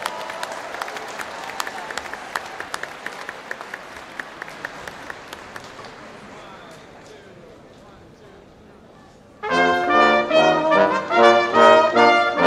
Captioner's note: applause